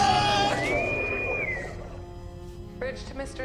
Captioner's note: intercom whistles